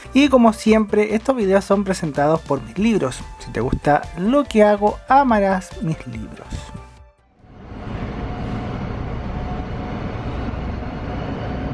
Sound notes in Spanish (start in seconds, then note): 7.5 sonido del bus empezando las marchas